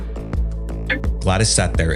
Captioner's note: clock Ticking